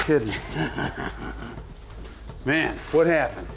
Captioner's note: laughs